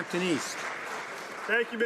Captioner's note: some Applause